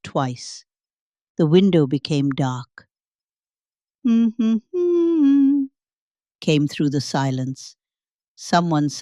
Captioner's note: hums